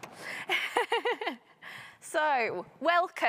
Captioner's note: laughing